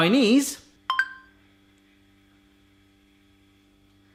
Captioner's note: dinging